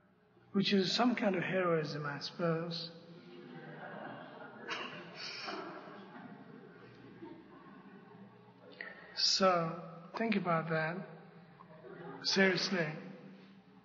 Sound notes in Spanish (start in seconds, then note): 7.8 risas